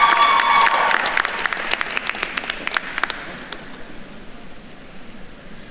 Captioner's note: attendees cheering and applauding